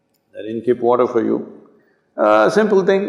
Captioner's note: none